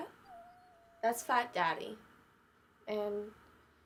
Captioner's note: cat meows